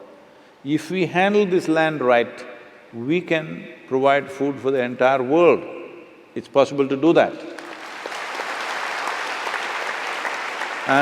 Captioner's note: applause